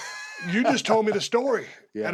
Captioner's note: laugh